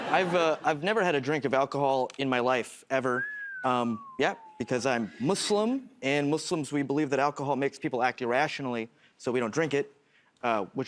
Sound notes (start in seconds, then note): 3.0 whistles